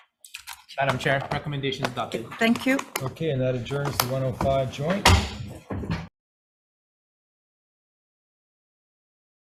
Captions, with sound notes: - Madam Chair recommendation is adopted. - Thank you. - Okay, and that adjourns the 1:05 joint. (gavel bangs)